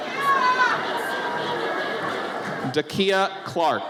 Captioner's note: audience cheers